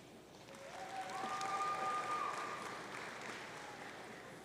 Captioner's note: audience cheering